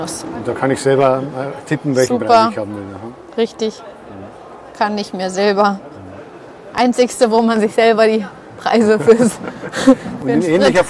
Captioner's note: laughter